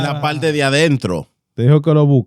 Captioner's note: speaking In Foreign Language